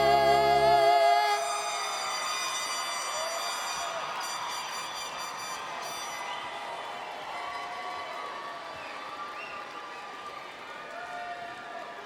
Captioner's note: applause